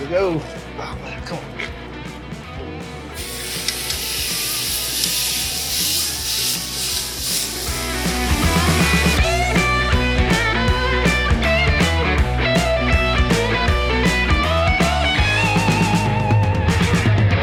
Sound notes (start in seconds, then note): 3.1 sizzling; 8.4 upbeat music